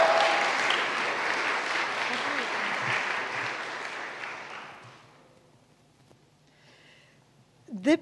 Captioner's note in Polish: oklaski